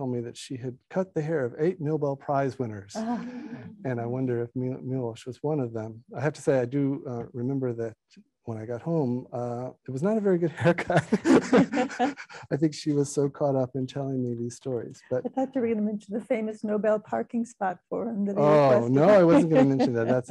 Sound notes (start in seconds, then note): 3.0 laughing; 10.5 laughing